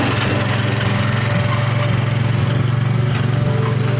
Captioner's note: engine roaring